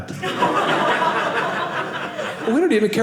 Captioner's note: audience laughing